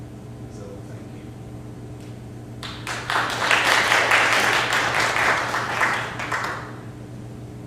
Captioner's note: clapping